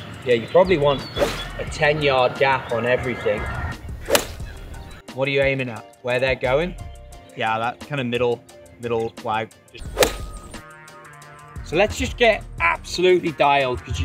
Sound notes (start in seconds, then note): 4.0 golf club whacks; 9.8 golf club whooshing